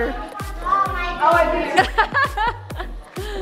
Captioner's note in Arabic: يضحك